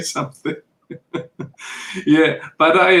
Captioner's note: chuckles